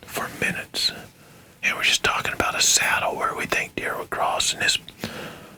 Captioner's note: whispering